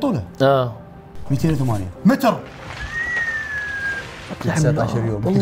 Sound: whistles

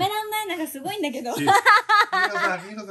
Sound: laughs

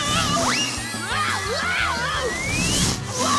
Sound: screaming

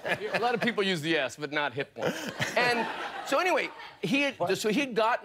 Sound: laughter

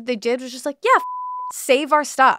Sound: beep

